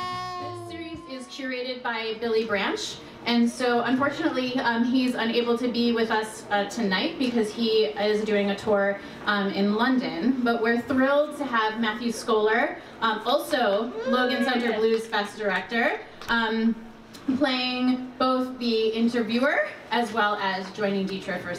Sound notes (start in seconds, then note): 13.8 audience cheers